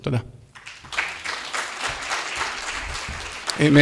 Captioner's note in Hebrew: מחיאות כפיים